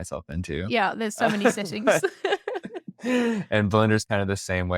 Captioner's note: laughs